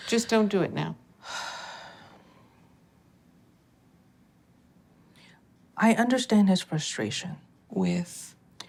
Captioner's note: sighs